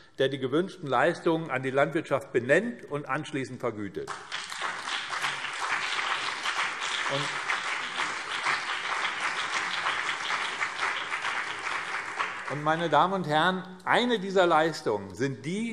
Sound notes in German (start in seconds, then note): 4.0 Beifall BÜNDNIS 90/DIE GRÜNEN und CDU